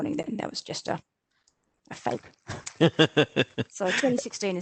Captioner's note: chuckles